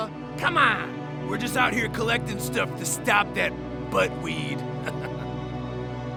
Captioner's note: chuckles